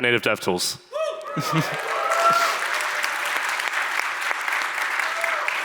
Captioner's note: audience applauds